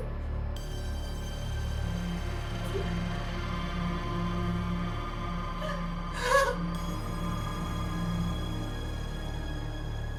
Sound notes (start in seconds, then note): 6.1 gasping; 8.0 eerie music